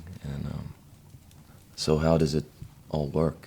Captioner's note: none